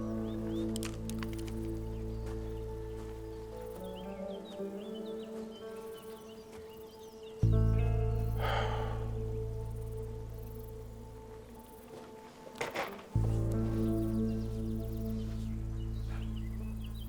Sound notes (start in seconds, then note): 0.2 birds chirping; 8.2 sighing